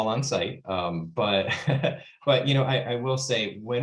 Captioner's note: laughs